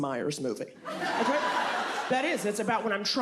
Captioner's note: audience laughs